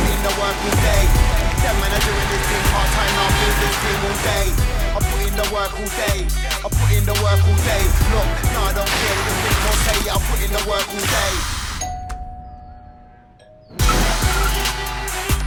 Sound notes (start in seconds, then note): 11.8 doorbell rings